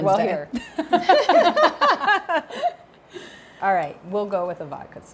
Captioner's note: Maxxine laughs